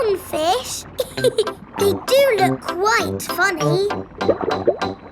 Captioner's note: laughs